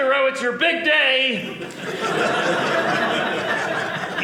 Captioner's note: audience laughing